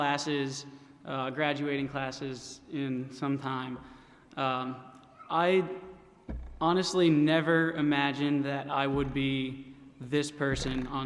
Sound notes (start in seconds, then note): none